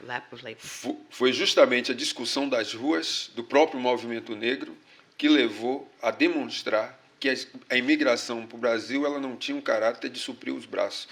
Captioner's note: speaking portuguese